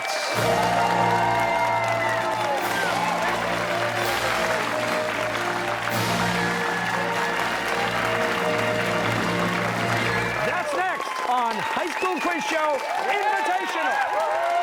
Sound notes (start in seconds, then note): 0.3 fanfare; 4.5 cheers and applause